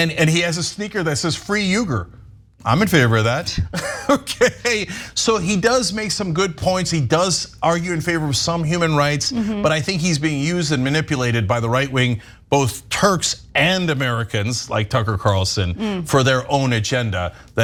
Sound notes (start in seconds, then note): 3.8 laugh